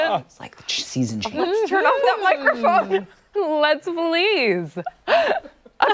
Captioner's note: laughter